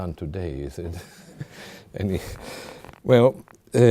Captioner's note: chuckling; audience chuckling